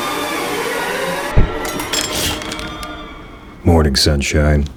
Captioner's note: knock at door, door bell rings